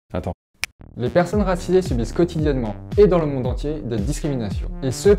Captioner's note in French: claque des doigts